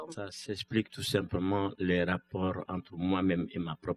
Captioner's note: speaking french